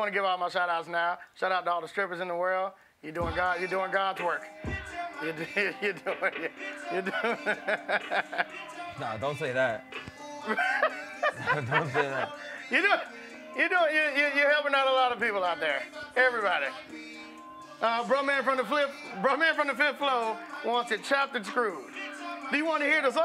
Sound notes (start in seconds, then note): 5.3 laughs